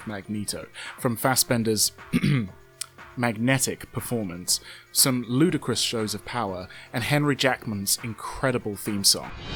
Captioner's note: ahem